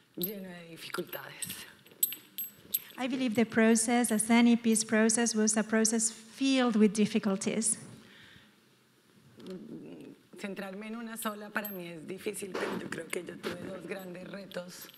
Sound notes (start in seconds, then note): 9.7 speaking in foreign language